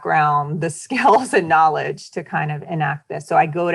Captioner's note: chuckling